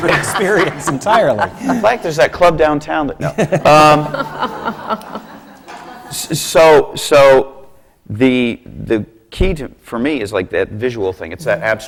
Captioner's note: laughter; laughter